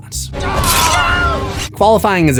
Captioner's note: screams